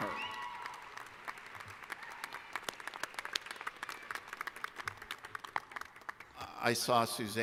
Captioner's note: applause